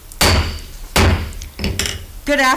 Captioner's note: gavel bangs